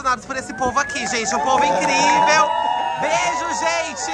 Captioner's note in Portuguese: gritos de comemoração